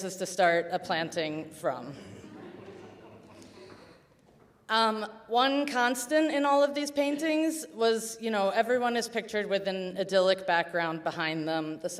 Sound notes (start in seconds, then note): 2.1 audience chuckles